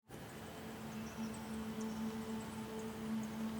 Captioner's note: wind rustling